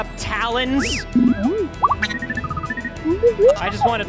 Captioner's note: BD-1 sounds